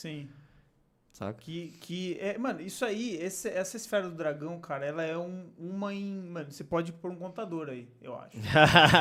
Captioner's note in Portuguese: risos